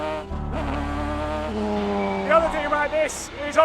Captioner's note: engine roaring